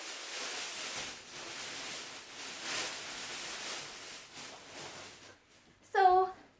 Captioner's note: plastic bag rustling